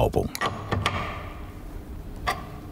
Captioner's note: metallic sounds